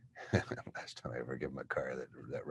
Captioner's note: chuckles